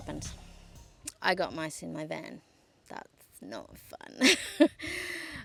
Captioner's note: laughs uncomfortably